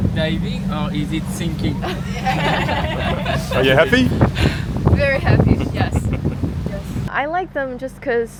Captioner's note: laughs